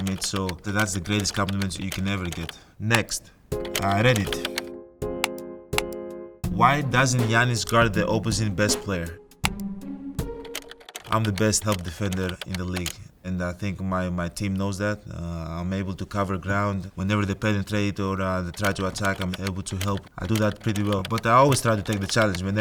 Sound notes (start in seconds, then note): 3.3 slow music; 3.5 keyboard clicking; 10.2 keyboard clicking